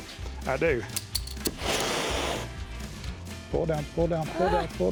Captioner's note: flame roars